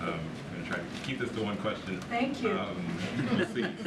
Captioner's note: laughter